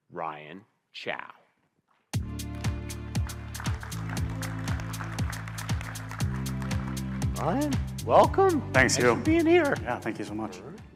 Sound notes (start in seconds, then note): 2.2 upbeat music; 2.2 audience clapping